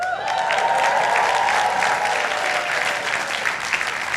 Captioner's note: audience applauding